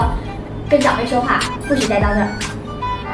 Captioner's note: imitating the uncle's tone